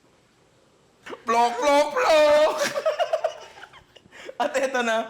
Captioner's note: laughs; chants